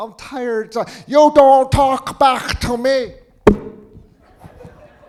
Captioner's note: grandma hitting him on head; audience laughing